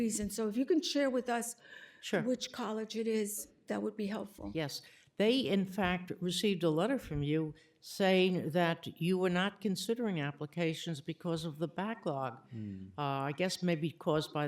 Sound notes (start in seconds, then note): none